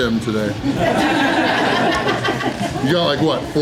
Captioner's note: crowd laughter